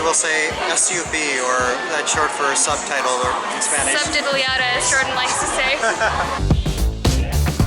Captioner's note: laughter